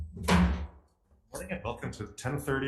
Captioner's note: gavels slams